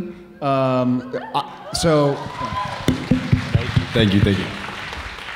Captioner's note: audience cheering